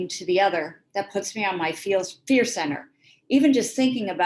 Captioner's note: gasp